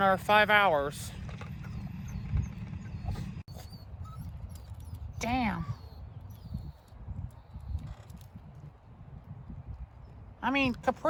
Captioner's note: Ella whimpers